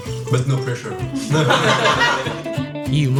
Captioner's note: laughs